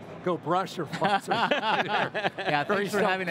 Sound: laughing

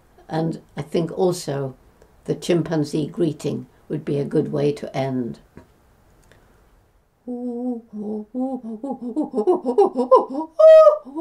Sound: chimpanzee vocalization

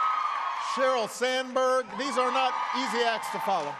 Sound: applause

